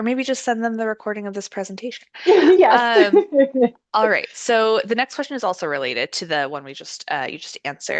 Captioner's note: laughs